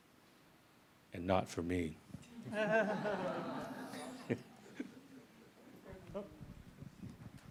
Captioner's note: audience laughs